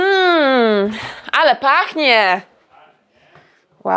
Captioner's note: speaks foreign language